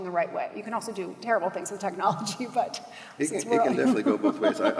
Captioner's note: laughs